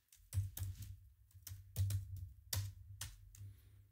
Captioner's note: typing